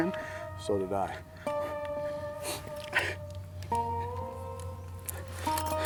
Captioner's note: sniffling, crying and keys working